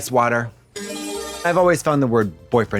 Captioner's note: bright chime